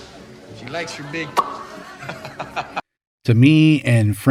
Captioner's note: makes popping noise